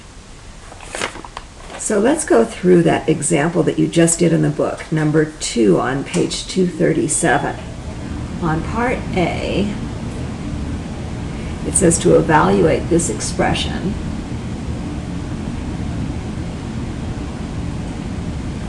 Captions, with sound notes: - [Voiceover] So let's go through that example that you just did in the book, number two on page 237. On part A, it says to evaluate this expression,